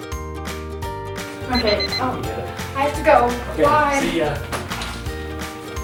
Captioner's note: alarm sounds